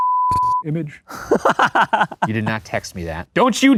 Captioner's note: beep; laughs